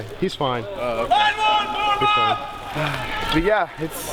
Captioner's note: man shouting